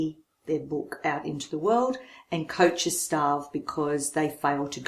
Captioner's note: none